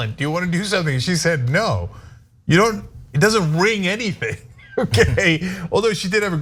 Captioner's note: laugh